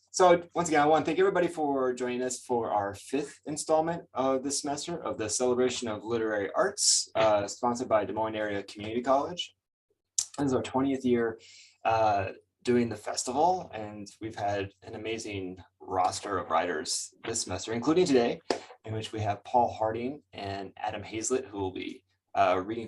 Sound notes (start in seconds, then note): 10.2 lip smack